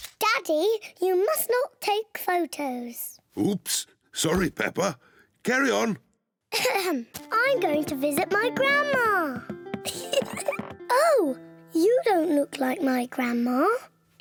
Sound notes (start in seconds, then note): 6.2 clears throat; 9.8 giggles